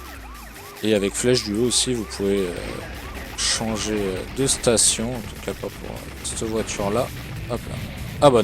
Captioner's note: radio